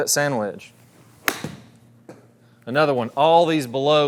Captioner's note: club whacks